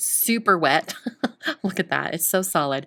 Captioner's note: chuckling